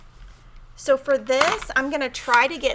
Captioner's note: cutter clatters